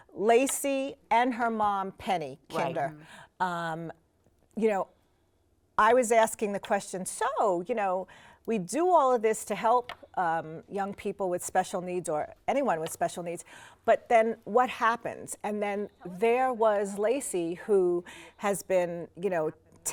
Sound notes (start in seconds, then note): none